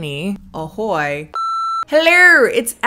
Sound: beep

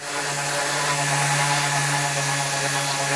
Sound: machine whirring

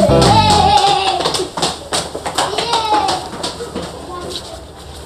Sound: kids screaming

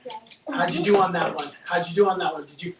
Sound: giggles

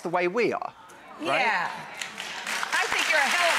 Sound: audience applauds

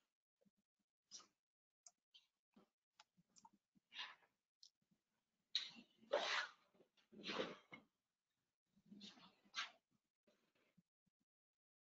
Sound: silence

